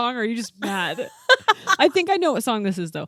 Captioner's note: laughing